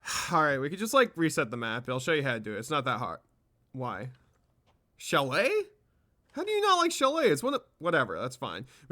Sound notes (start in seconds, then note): 0.0 sigh